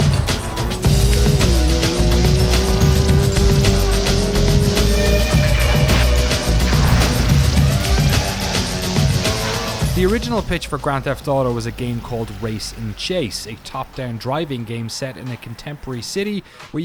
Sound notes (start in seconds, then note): 1.0 car engine roaring; 1.0 hip hop music